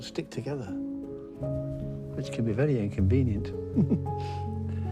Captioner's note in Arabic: ضحكة مكتومة